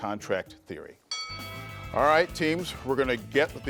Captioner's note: bell dings